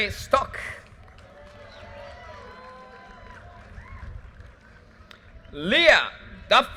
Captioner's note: audience cheers and applause